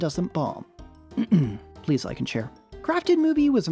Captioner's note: ahem